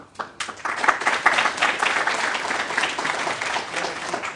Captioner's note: applause